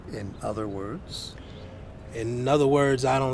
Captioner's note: none